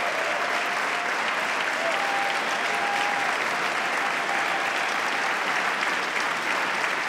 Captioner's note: applause